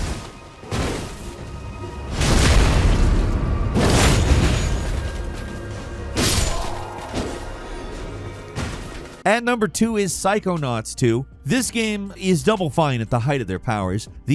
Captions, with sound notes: (sword thudding) (Mausoleum Knight groans) At number two is "Psychonauts 2." This game is Double Fine at the height of their powers.